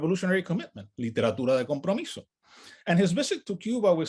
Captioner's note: speaks in native language